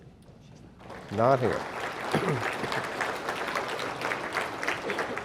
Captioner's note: audience applauding